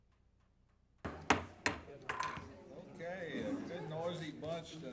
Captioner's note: gavel banging